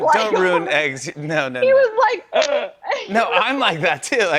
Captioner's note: gasps